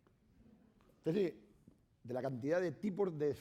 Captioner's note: speaking spanish